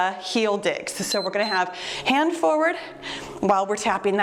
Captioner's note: timer beeps